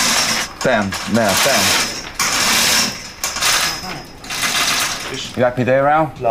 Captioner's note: screeching sounds of a lift chain